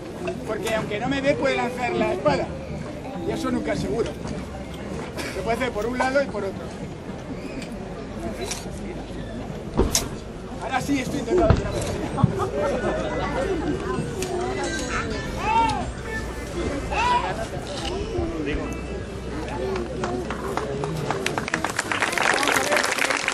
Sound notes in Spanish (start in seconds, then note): 12.1 el público comenta; 19.7 aplausos